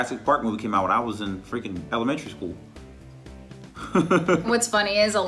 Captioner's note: laughs